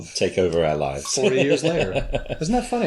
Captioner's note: laughs